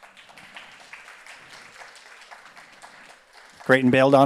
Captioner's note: audience applauds